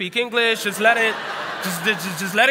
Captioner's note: laughter